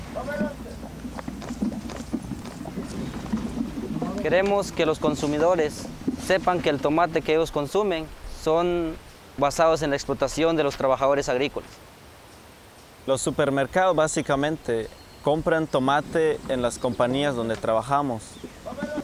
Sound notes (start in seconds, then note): 0.2 background conversations; 4.2 speaking Native Language